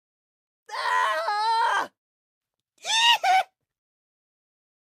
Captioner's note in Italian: urla